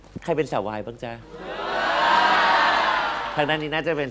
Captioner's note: audience screams